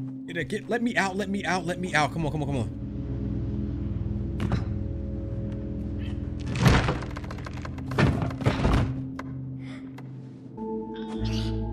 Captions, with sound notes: Get, let me out. Let me out, let me out. Come on, come on, come on. (thuds)